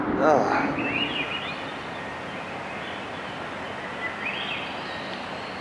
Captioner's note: birds